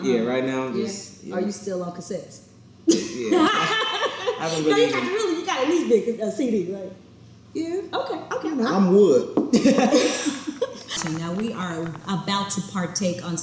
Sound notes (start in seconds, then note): 2.9 laughs; 9.6 all laugh